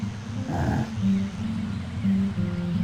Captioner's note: grunt